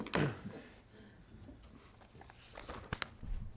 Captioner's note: laughter